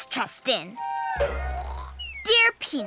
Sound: Butterfly snores

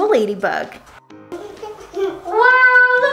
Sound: laughing

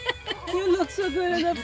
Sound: laughing

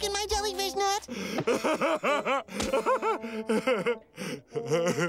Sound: laughing; chuckling

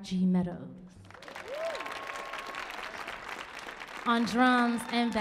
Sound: audience cheering

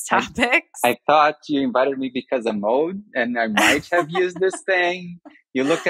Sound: <Laugh>

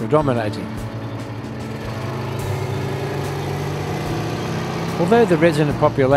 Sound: vehicle sounds

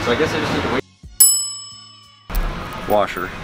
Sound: dings

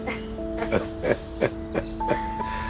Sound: laughs

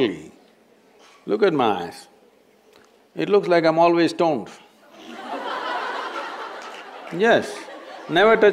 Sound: laughter

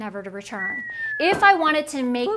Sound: whistling

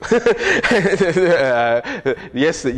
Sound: laughs

